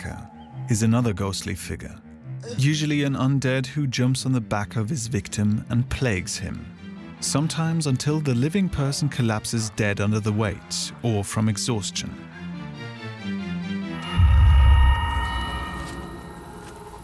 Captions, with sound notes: The "piggy-backer" is another ghostly figure: usually an undead, who jumps on the back of his victim and plagues him. Sometimes until the living person collapses dead under the weight or from exhaustion. [Eerie noises]